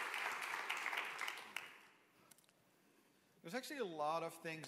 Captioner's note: applause